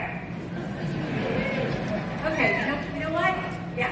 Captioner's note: audience laughs